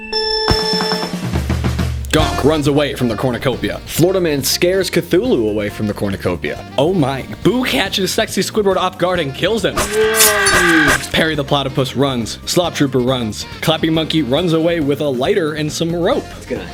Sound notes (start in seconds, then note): 0.0 beeeep!; 9.7 stabbing and Screaming